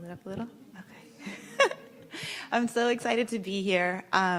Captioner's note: laughs